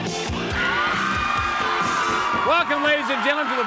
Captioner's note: audience screams